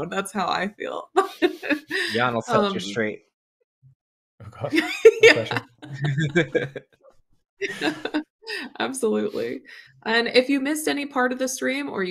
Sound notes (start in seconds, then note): 4.6 laughter